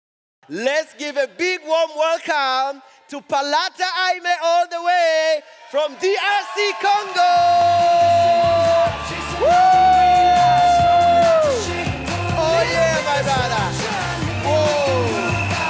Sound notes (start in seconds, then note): 8.0 audience cheering; 8.0 lively music